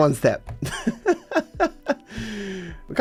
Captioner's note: laughs